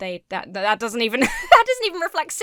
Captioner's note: laughs